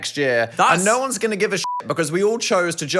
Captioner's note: beep